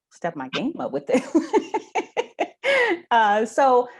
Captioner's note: laughs